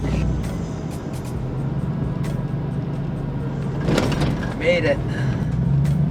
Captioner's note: mellow music; car engine revving